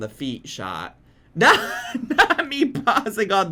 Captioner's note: laughs